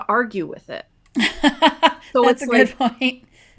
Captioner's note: laughs